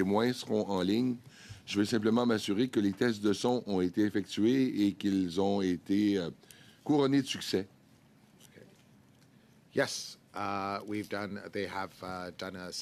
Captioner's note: speaking French